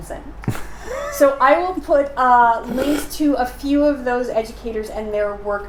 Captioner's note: laughing